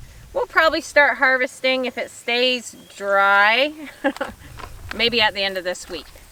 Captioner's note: chuckles